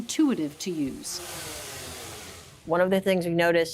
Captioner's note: device whirring